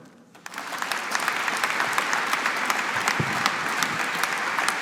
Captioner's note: audience applauding